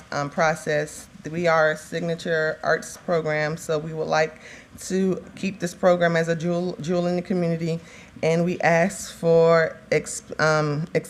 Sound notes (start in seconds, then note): none